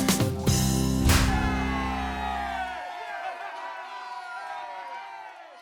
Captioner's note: people cheering